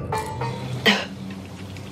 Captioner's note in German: Husten